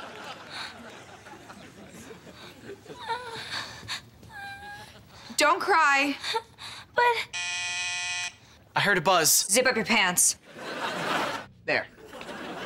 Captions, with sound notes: [whimpering] - Don't cry. - But... [doorbell buzzing] - I heard a buzz. - Zip up your pants. There.